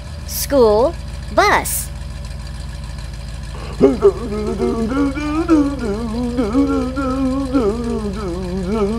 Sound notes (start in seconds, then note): 3.5 humming